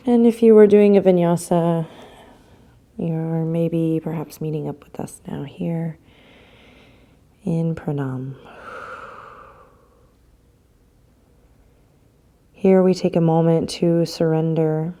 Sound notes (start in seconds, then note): 10.5 breathing